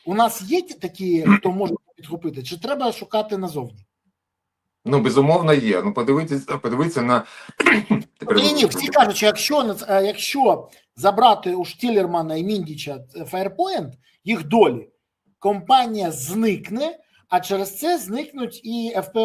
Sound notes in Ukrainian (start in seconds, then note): 7.5 прочищення горла; 7.5 кашель